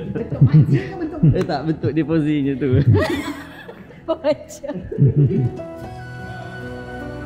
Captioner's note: laugh; laugh